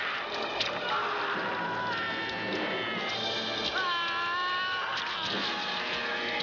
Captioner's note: yelling